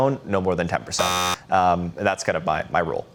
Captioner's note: buzzer sounding